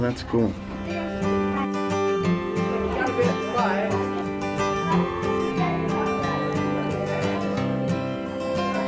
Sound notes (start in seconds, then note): 2.4 chattering